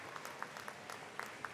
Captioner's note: cheering